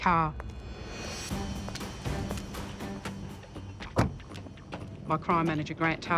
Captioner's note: dramatic music; footsteps clacking